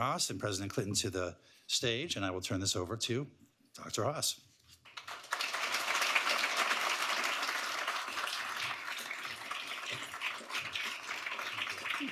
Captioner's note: applause